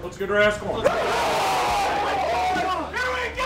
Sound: cheering

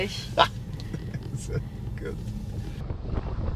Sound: laughs

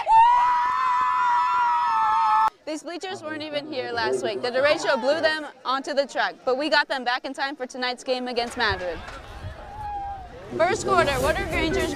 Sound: cheers

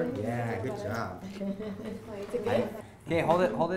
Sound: laughing

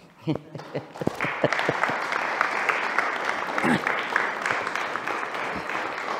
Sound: applause

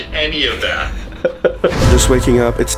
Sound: laughing

